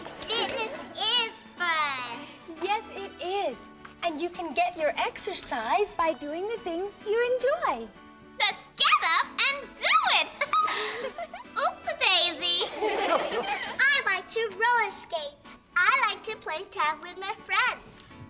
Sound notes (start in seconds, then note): 12.5 laughter